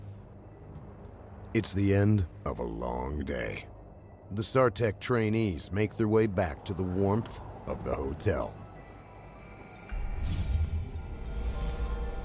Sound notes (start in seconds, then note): 6.0 voiceover